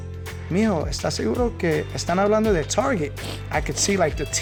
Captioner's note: speaking Spanish